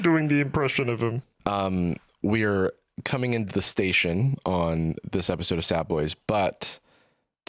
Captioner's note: normal voice